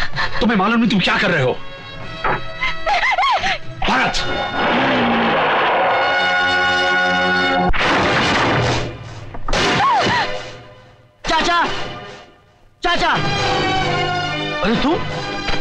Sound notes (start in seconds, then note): 4.3 car Engine; 7.7 door Opens